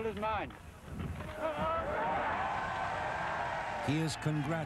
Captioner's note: wild cheering